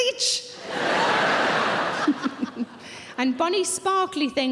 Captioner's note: audience laughing